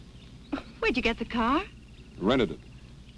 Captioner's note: chuckles